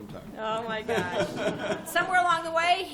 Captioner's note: laughter